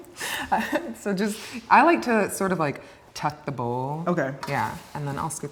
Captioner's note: laughs